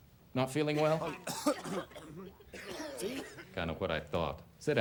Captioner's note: students coughing